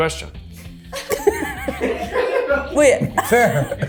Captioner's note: and crew laugh; group laughs